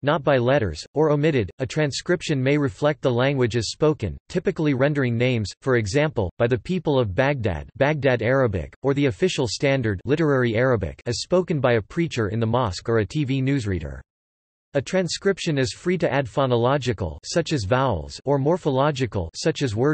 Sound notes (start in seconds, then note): 7.6 baghdad Arabic